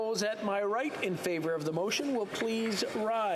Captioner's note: some applause